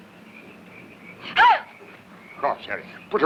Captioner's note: Valeria yelps